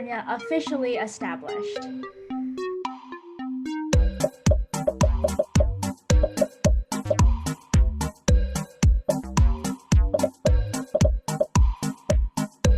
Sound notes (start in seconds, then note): 2.9 upbeat music; 4.8 popping